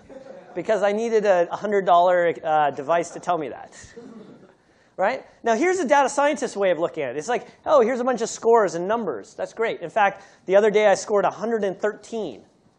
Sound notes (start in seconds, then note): 3.8 laughter